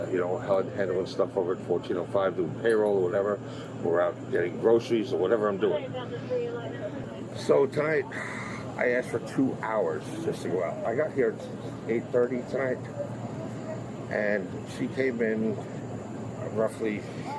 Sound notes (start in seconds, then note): 6.7 radio chatter